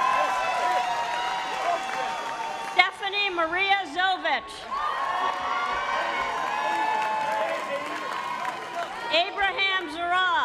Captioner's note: cheering and applause